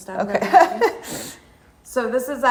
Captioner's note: laughing